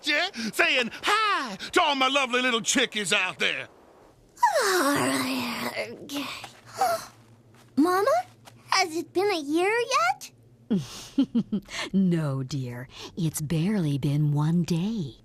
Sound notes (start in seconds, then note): 4.4 yawns; 10.7 chuckles